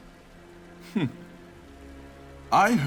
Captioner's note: gasps